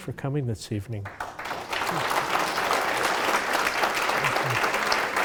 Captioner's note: applauding